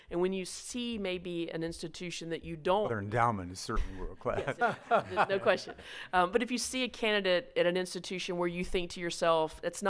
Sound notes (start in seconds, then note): 4.4 laughs